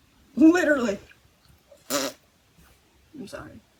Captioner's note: fart noise